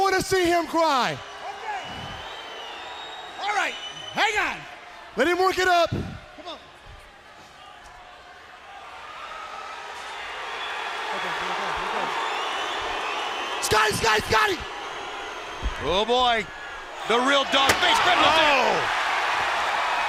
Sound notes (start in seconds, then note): 6.5 crowd chatter; 17.1 crowd chatter; 17.9 crowd cheering